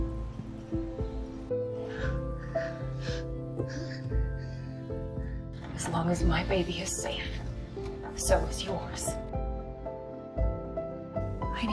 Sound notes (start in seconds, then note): 1.1 June breathing heavily